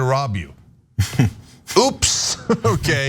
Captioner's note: laugh